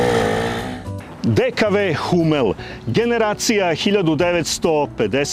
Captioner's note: snort